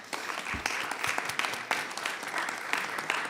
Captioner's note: applause